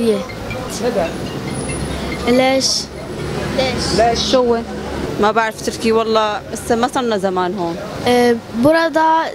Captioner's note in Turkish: arapça konuşuyorlar